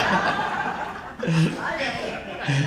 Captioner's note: audience laughs